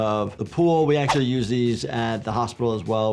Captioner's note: graphics whooshing